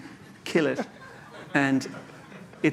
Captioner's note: laughter